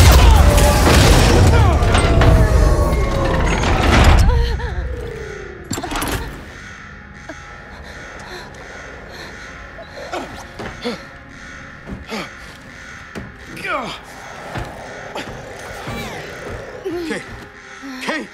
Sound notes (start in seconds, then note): 0.0 gunshots; 7.2 gasping